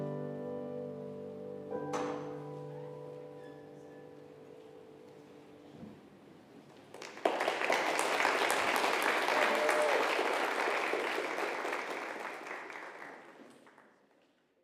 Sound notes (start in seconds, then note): 0.0 peaceful piano music continues; 6.8 congregation applauding